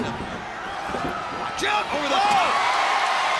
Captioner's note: crowd cheering